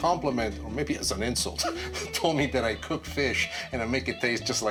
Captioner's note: laughs